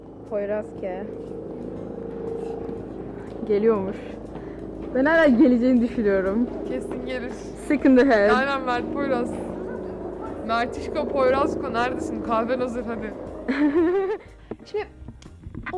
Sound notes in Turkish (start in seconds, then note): 2.6 helikopter ve adım sesleri; 13.4 İdil güler